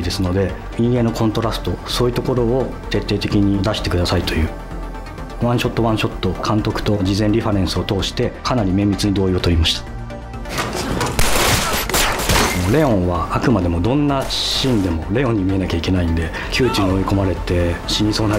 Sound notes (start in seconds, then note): 11.1 guns blare; 13.1 speaks Japanese